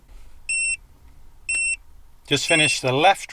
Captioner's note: device beeping